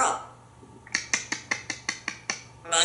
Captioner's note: squirrel sounds